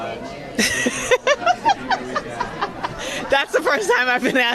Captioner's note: laughs